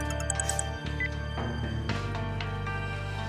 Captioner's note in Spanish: suena el celular